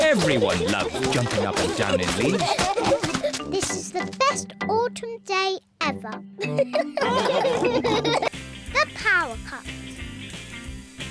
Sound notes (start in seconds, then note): 6.4 all giggle